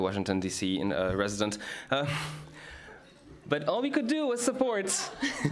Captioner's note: laughter